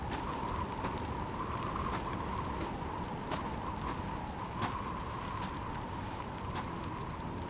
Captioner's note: wind whooshing; footsteps thudding